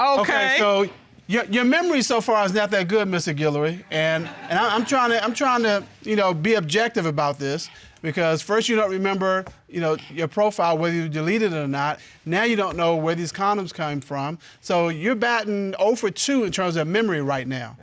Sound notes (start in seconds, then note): 3.8 audience laughing